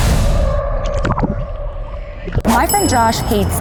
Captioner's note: water bubbles